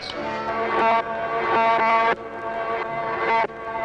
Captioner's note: buzzing